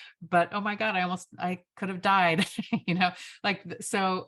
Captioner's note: chuckles